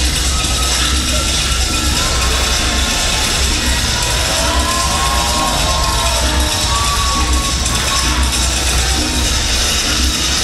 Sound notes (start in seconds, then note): 1.1 crowd cheers; 7.7 upbeat music